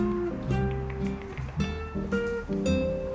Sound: tongue clicks

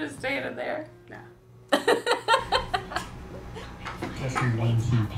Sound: laughs

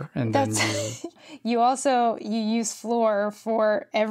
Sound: laughs

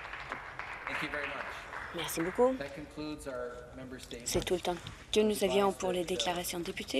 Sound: some Applause

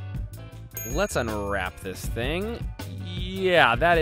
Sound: bell dings

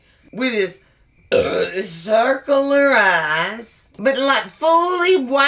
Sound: burps

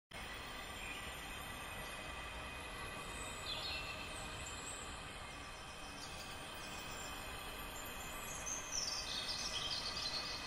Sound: soft Forest Noises

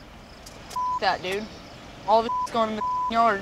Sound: beep

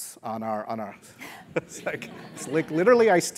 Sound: laugh

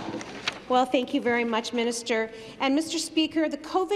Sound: some Applause

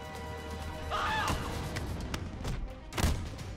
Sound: screaming

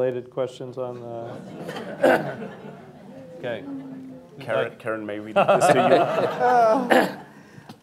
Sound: laughter

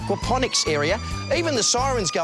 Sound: siren wails

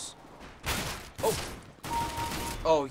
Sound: kill chime

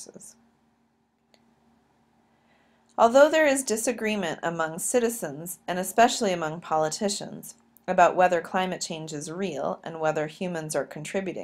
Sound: click

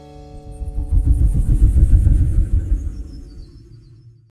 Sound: whirring

